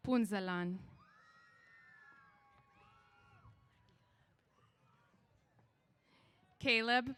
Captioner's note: cheers